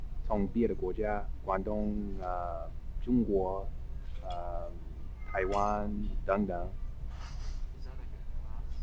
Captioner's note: mandarin